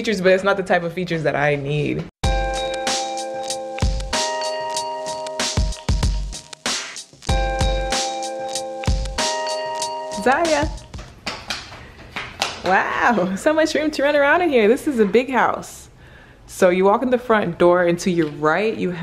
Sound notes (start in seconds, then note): 2.0 upbeat music; 10.6 feet pattering